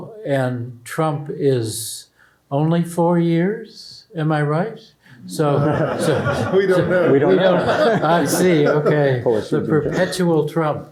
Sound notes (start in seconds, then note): 5.5 laughter